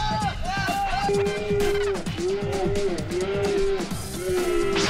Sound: they scream as they gain momentum

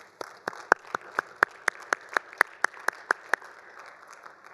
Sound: all applauding

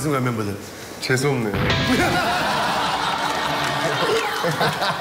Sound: laugh

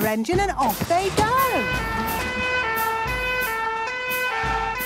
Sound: siren sounding

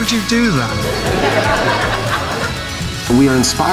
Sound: laughter

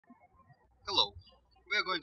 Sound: birds chirping

